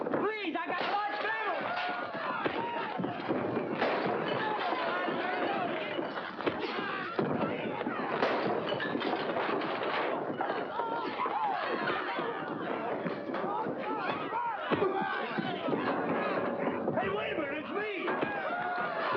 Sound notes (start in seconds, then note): 1.7 smash; 3.8 smash; 7.1 thump; 7.6 yelling & objects breaking; 11.5 commotion